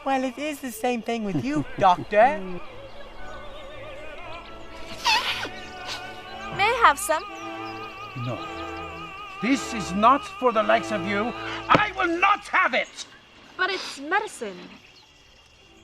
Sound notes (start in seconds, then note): 4.9 snorting